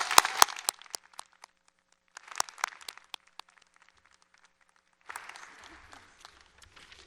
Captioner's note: applause